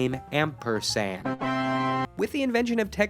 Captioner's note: Windows 3.1 startup sound plays